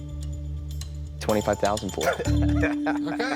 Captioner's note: laughs